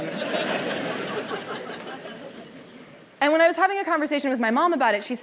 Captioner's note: laughter